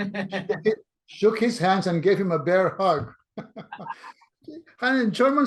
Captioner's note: laughs; laughs